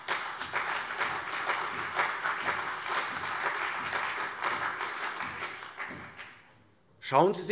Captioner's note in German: Beifall CDU und vereinzelt BÜNDNIS 90/DIE GRÜNEN